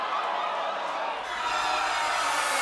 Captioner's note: cheers and applause